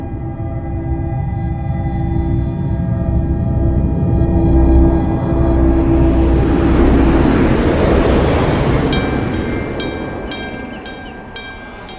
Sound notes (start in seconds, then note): 5.8 airplane flying; 8.4 bell blown by wind chimes